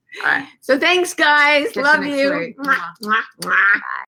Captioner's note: blowing kisses